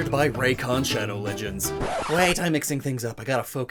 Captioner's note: record scratch, music abruptly stops